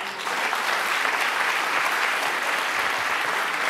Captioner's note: audience applauds